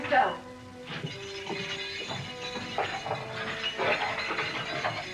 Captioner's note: keys jiggling